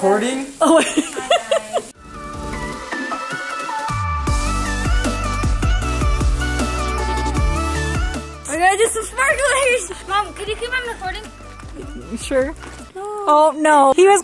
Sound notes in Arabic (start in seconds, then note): 0.6 يضحك; 3.1 موسيقى مبهجة